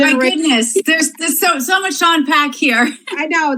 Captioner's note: laughs